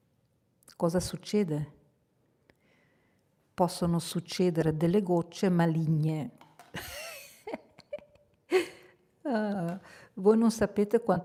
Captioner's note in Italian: risate